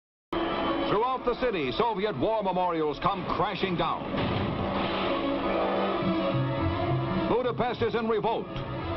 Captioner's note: radio Announcer